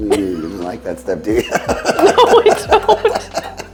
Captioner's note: laughing; laughs